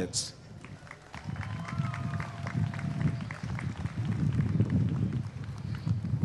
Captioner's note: applause and cheering